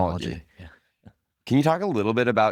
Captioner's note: laughs